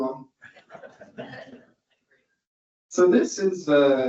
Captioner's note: audience laughs